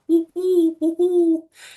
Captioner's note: imitates Owl